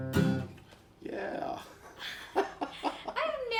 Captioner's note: laughs